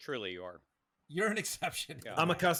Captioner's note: laughs